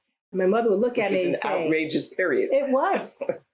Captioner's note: laughs